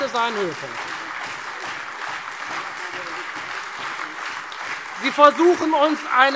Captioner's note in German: Beifall Freie Demokraten und SPD